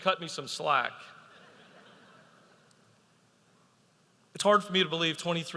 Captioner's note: audience laughing